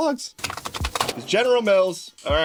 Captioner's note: typing Sounds